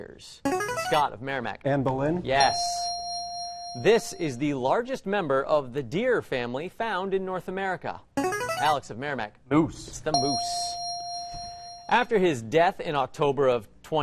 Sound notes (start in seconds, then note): 0.0 player buzzer; 2.4 ding; 7.5 player buzzer; 10.1 ding